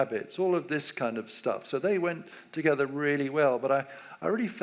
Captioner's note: none